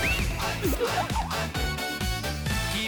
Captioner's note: laughs in disbelief